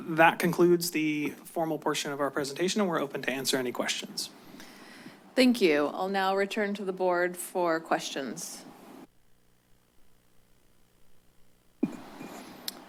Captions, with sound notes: That concludes the formal portion of our presentation, and we're open to answer any questions. - Thank you. I'll now return to the board for questions. [pause]